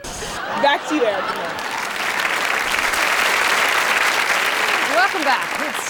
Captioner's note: laughter and applause